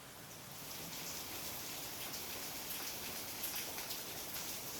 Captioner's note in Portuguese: Chuva caindo